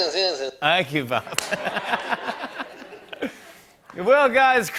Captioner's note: laughter